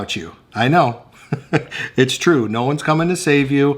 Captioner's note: laughing